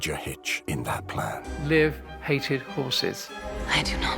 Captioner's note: Arwen speaks elvish